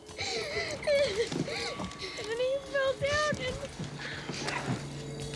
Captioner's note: sobbing